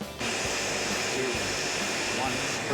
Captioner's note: blender whirring